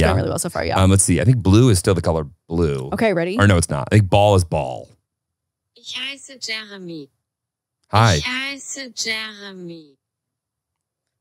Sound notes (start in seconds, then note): 6.1 automated voice speaking German